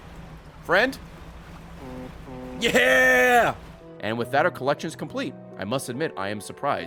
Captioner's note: distant honks